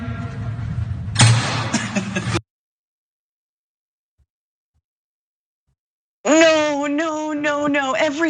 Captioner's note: laugh